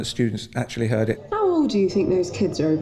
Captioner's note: student over radio